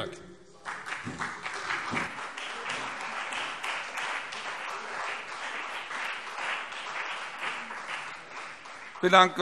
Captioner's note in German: Beifall Freie Demokraten, CDU, BÜNDNIS 90/DIE GRÜNEN